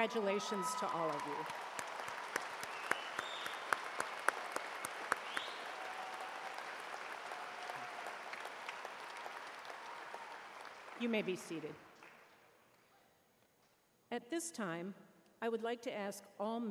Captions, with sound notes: GRADE POINT AVERAGE OF 3.5 OR HIGHER ALSO PLEASE STAND. CONGRATULATIONS TO ALL OF YOU. [ CHEERS AND APPLAUSE ]